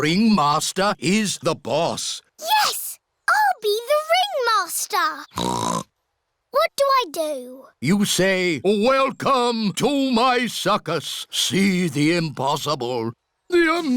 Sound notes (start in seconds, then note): 5.3 snorts